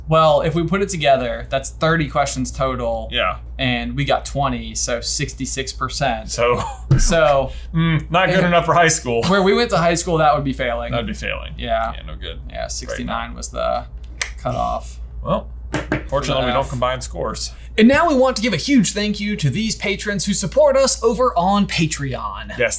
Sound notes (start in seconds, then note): 13.8 tongue clicks